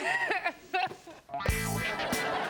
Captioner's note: audience laughing; upbeat music